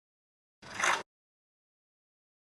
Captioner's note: click